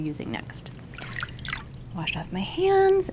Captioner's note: water splashing